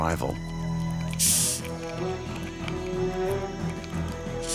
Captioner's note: dramatic music playing; hissing